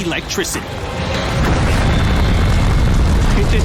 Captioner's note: explosions